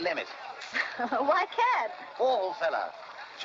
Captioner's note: laughing